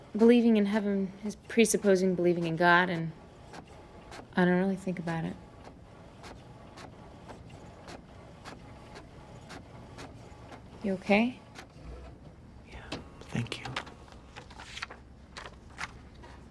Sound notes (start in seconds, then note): 5.8 printer whirling